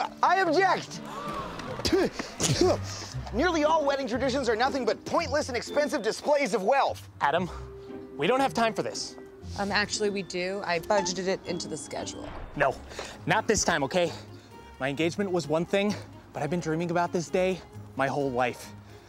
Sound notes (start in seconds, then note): 0.2 spits; 1.0 crowd gasping; 1.6 Adam spits